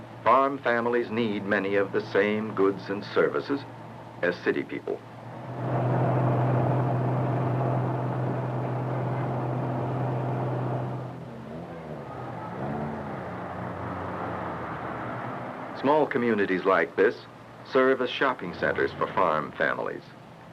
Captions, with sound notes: farm families need many of the same goods and services as city people. *car noises* Small communities like this serve as shopping centers for farm families.